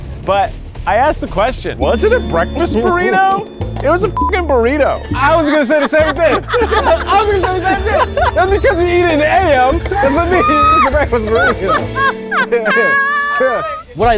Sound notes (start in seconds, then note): 2.2 beep; 11.6 laughing